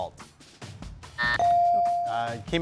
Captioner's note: buzzer dings; timer buzzes